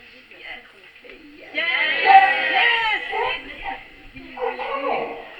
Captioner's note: public screams "YES"